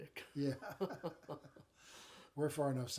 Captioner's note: chuckling